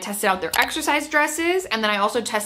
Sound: mouse clicks

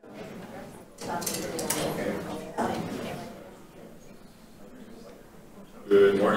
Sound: background chatter

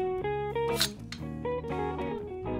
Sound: sword unsheathes

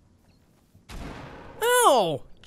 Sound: gunshot

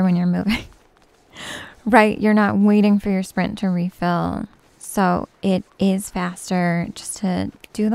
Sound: snaps

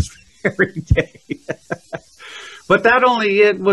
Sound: laughs

